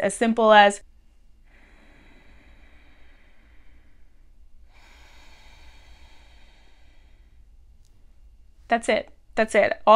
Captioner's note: breathes deeply